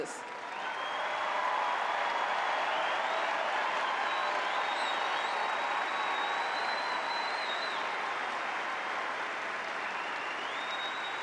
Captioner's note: applause